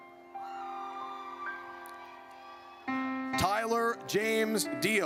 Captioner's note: audience cheers